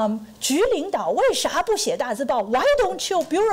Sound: foreign language

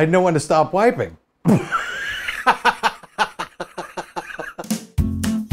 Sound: laughs

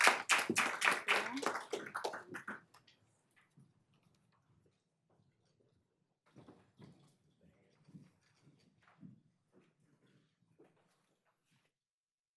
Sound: applause

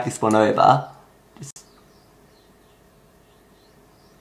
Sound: awkward silence

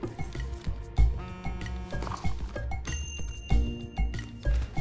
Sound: scheming music; phone buzzes

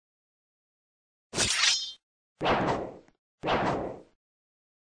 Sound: intense sword noises

